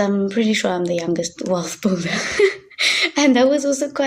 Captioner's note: chuckling